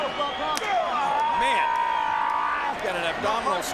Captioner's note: crowd cheers; punk shouts